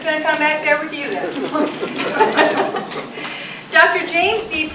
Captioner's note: audience laughing